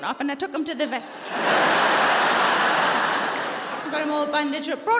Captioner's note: audience laughing